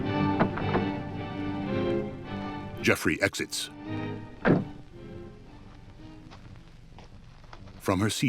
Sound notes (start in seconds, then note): 1.5 music fades; 4.4 car door slams